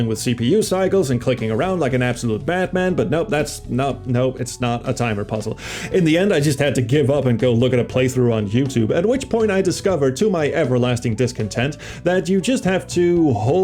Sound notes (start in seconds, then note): none